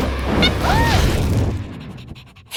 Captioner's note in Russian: кричит от неожиданности